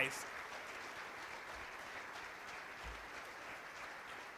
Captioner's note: applause